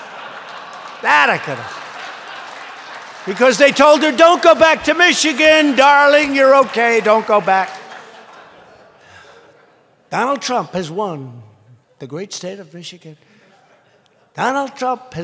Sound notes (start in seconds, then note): 0.0 laughter; 7.6 laughter; 13.4 laughter